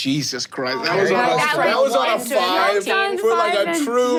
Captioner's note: everyone chattering and laughing